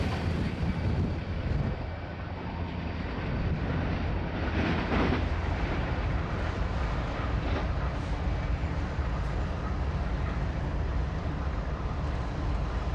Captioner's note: wind howling